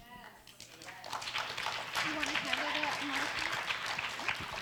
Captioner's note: audience applauds